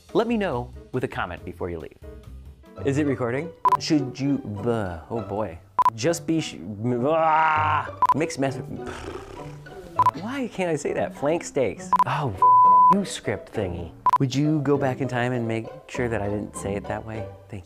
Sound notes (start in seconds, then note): 8.8 blows raspberry; 12.4 beep